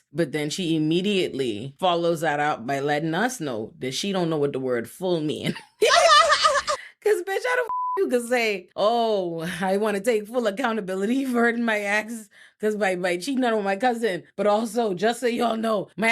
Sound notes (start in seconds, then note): 5.8 laughing; 7.6 beep